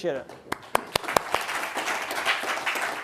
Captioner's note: applause